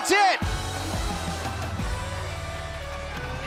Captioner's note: bell